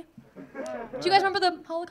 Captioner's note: audience laughing